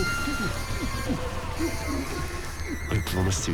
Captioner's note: screams